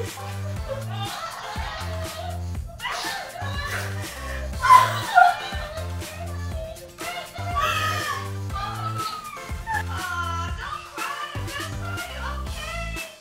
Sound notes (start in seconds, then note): 0.3 laughing; 0.3 sobbing; 4.0 shouts